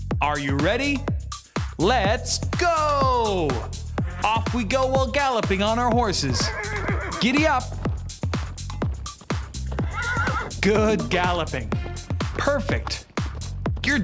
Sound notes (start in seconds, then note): 6.2 horse neighing; 9.3 horse neighing